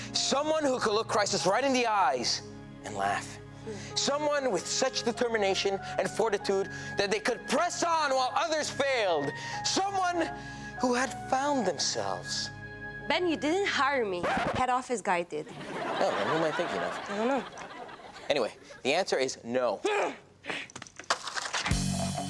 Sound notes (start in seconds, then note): 14.1 record scratches; 15.4 audience laughs; 19.9 Tess groans